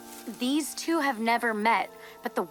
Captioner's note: leaves rustle